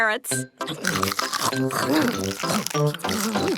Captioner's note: crunch